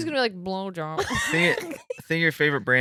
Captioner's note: laughing